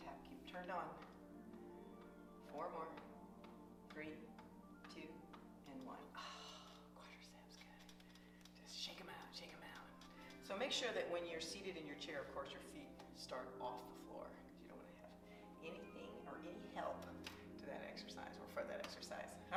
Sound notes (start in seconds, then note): 6.2 soft exhaling